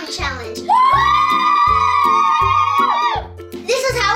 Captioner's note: cheering